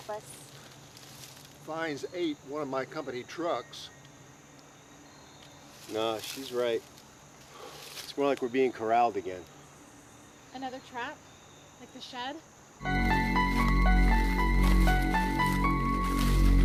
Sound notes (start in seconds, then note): 7.0 sigh; 12.8 clomping steps